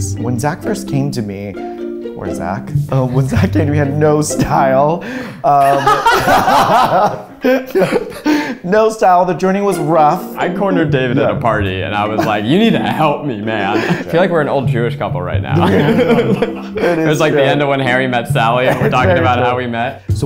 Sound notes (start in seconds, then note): 5.4 both laughing